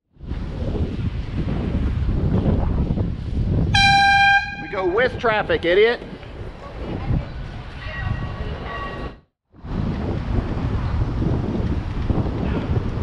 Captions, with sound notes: *AIRHORN* We go WITH traffic, idiot!!